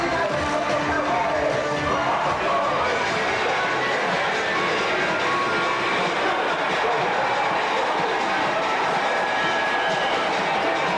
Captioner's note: applause